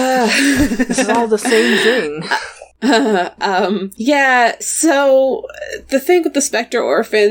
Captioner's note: laughs